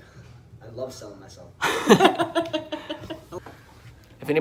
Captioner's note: laughing